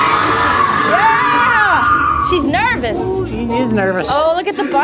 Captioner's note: air blasts and screaming sounds